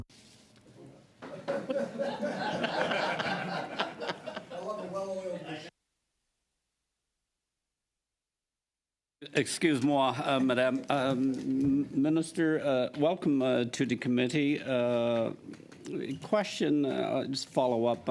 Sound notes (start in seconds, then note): 5.6 laughter